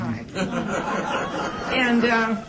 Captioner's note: laughter